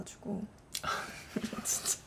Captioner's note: haha